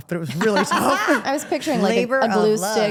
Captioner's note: group laughs